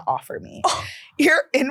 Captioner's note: gasps